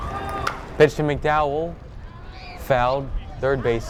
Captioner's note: bat cracks